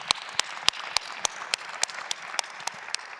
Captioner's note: claps